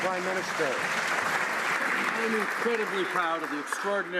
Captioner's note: some Applause